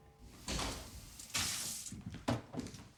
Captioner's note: kitchen faucet running